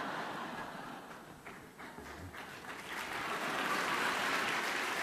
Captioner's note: laughter; applause